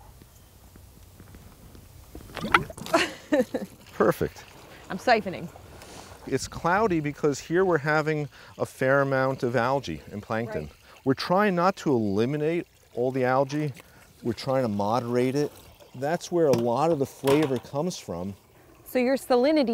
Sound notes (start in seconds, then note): 2.2 gurgling